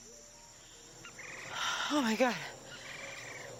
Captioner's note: sighs